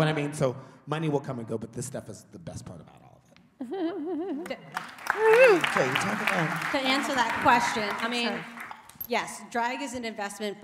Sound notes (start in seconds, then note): 4.6 applause